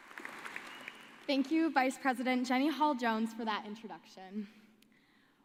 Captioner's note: applause